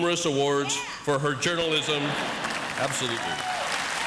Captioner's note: audience applauds